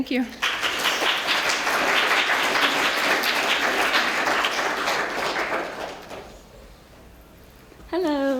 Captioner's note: applause